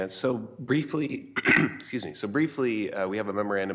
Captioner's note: clears throat